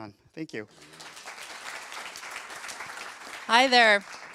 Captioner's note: applause